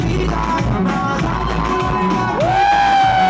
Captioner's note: the crowd going wild